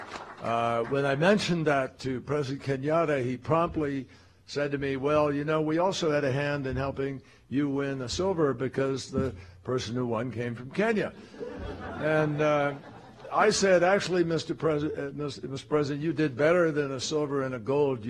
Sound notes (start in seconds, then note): 0.0 applause; 11.1 laughter